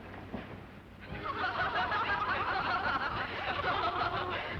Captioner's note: women laughing